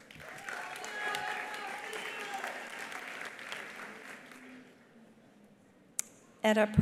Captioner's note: attendees applauding; attendees cheering